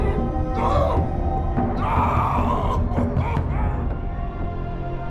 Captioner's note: yelling